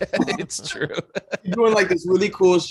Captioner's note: laughing